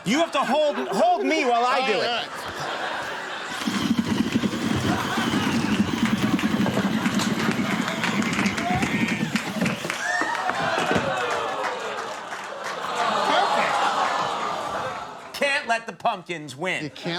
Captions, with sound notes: You have to hold me while I do it. (machine whirs) (audience groans) Can't let the pumpkins win.